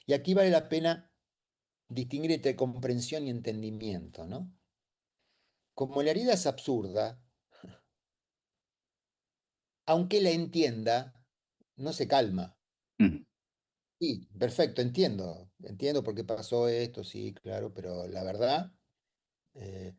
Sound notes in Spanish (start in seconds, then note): 13.0 carraspeo